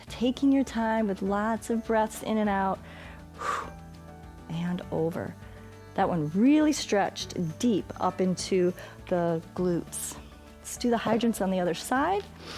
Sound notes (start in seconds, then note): 3.4 short exhale